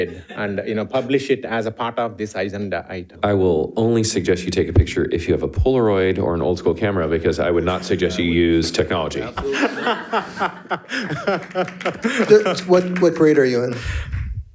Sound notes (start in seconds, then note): 9.2 participants laughing; 11.7 audience and participants applauding